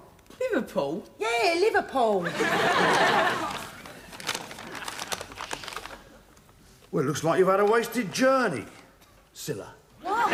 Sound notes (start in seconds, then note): 2.2 audience laughing